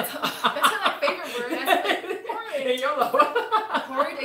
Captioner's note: laughs